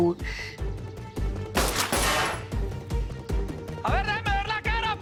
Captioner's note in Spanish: Disparos